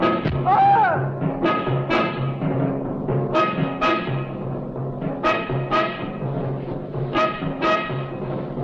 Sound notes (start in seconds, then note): 0.0 dramatic instrumental music; 0.4 man screaming